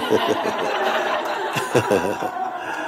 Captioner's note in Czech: smích